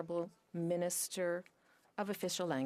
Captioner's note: speaking French